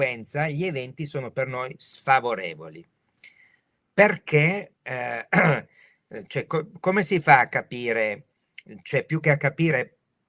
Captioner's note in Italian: schiarire la voce